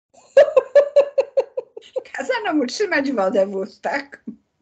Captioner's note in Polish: śmiech